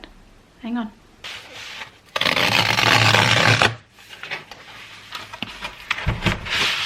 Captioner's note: tearing sound